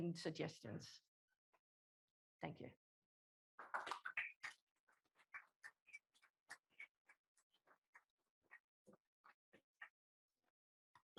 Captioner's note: applause